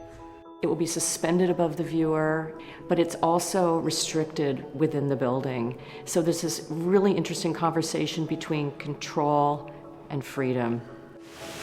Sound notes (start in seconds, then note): none